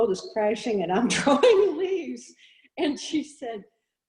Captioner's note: laughs